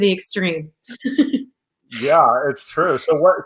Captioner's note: laughs